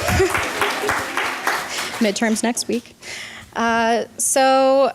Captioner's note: applause